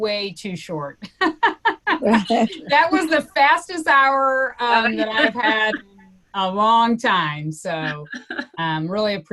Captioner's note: laughs